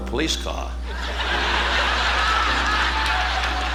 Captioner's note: audience laughing